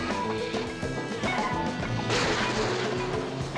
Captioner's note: gun firing